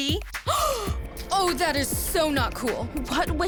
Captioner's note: gasp